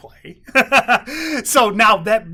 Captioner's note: laughs